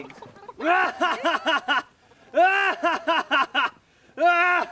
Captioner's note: Del wickedly laughs